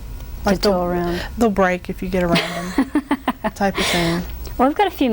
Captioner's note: laughing